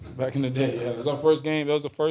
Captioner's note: reporters laugh